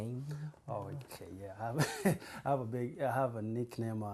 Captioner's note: laughs